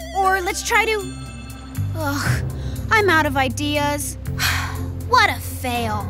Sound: sighs

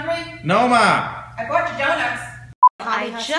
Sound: mom yells from off camera

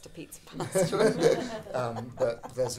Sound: audience laughing

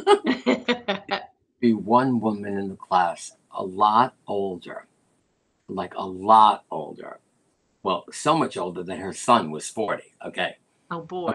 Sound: laughter

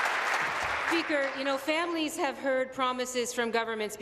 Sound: applause

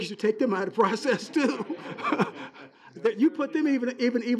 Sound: laughing

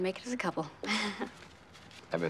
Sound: chuckles

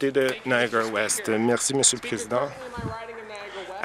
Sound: applause

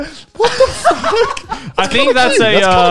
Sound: laughs

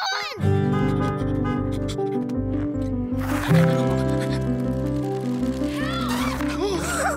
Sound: horn honking

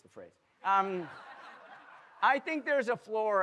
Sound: audience laughing

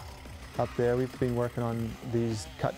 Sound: voiceover; chainsaw running

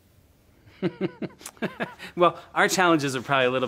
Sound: laughs

